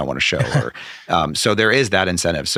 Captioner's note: laughing